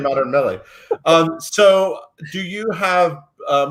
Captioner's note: laughs